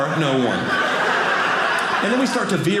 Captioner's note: audience laughing